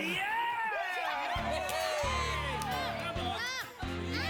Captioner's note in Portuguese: factory workers cheering